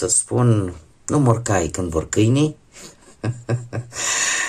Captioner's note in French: rires